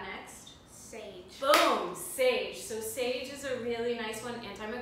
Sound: clap

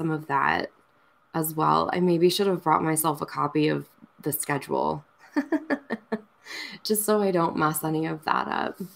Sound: laughs

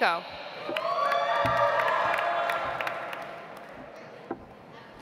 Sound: audience applauds

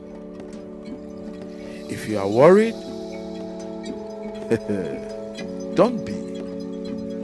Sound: laugh

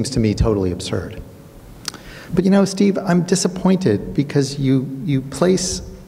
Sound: clicks tongue

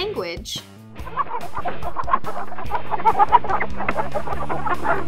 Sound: chickens clucking

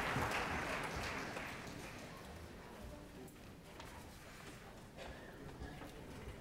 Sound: rustling and murmurs

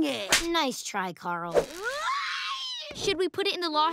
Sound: screaming

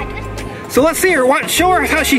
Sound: voiceover

